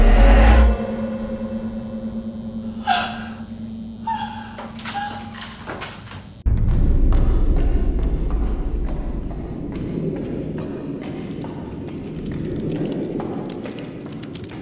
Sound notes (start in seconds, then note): 2.8 horrified gasps; 5.5 footsteps echoing; 12.1 keyboard clacking loudly